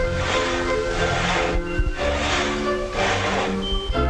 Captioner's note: stick smacking; bugs sawing